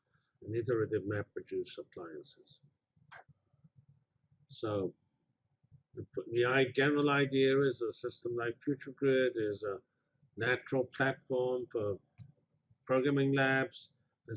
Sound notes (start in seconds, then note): 2.9 pause